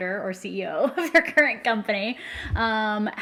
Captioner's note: laughs